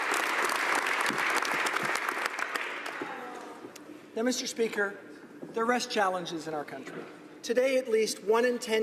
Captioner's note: applause